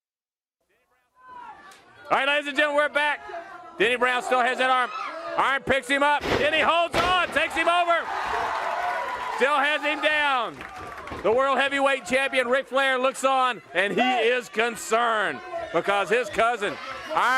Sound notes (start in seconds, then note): 11.8 crowd cheering